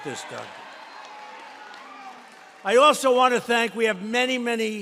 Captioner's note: applause